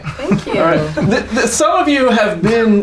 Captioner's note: laughter